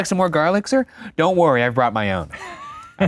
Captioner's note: laughs